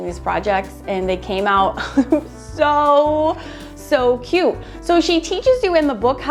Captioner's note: laughs